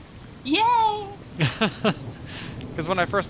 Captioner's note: laughing